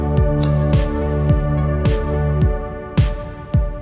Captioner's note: lighter clicks